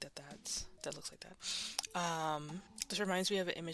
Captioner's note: inhale